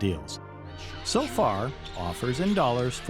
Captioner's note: crowd cheering